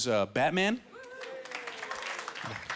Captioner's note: light cheering